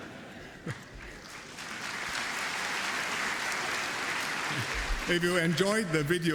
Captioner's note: applause